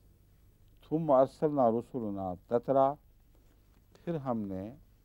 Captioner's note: Arabic